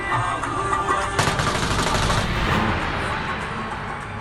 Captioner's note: gunshots firing